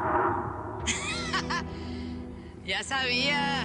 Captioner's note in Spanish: risas